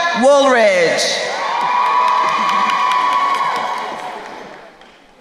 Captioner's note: crowd cheering